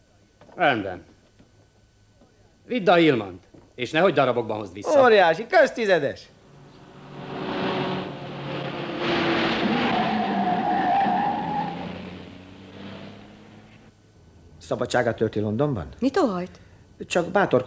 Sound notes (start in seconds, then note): 10.7 tyres squeal; 14.9 posh accent